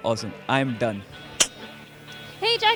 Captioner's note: clicks tongue